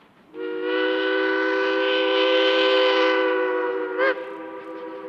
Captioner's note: train whistle blowing